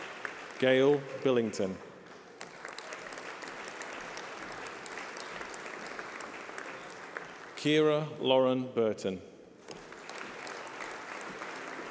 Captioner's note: applause